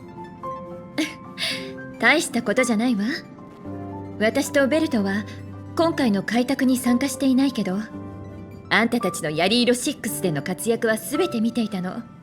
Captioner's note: chuckles